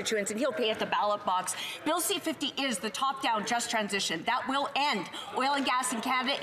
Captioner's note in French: voix de l'interprète